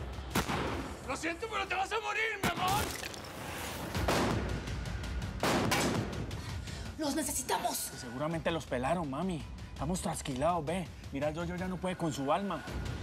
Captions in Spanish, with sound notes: >>LO SIENTO, PERO TE VAS A MORIR, MI AMOR. [CONTINÚAN LOS DISPAROS] >>¡LOS NECESITAMOS! >>SEGURAMENTE LOS PELARON, MAMI. MIRÁ AL YOYO, YA NO PUEDE CON SU ALMA.